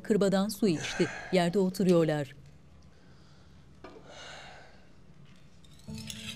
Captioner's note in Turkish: Ateş çıtırtı sesleri; Nefes sesi